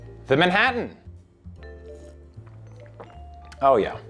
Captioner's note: sip